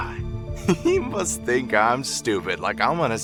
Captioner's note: laughs